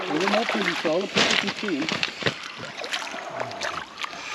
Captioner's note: fish splashing